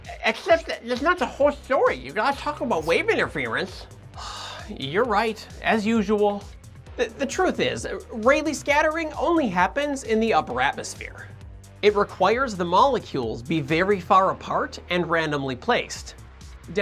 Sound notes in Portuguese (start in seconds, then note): 4.2 expiração frustrada